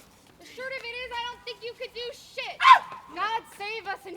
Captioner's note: Merry yelps